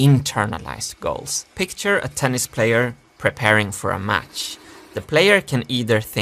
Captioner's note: drillpress whirring